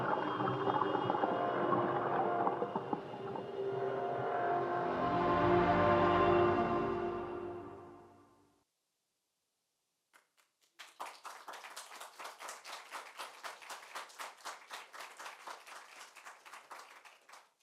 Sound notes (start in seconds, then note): 10.1 applause